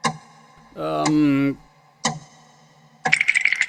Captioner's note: gulp